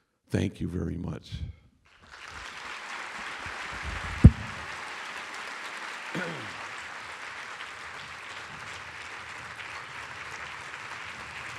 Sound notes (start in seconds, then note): 1.9 applause